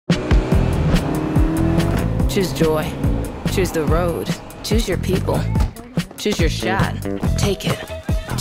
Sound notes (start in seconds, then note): 0.0 engine rumbling